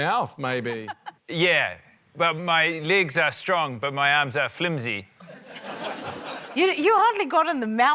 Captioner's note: laughter